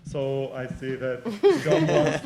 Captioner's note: chuckles